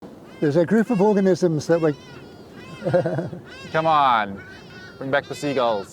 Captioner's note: bird noises